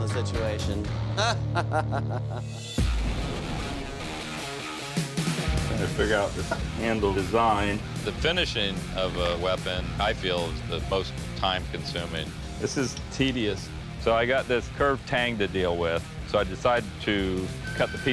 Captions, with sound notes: [laughs] [rock music] I'm trying to figure out this handle design. The finishing of a weapon, I feel, is the most time consuming. This is tedious. So I got this curved tang to deal with.